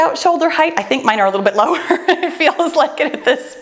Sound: chuckles

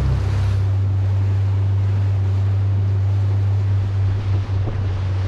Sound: boat motor roaring

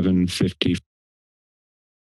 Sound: pause

